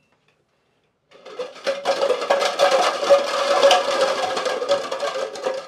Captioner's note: clattering